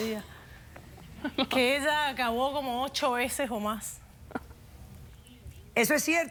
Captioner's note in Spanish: Risas